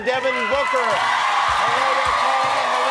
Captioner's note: applause